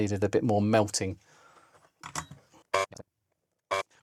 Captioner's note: buzzer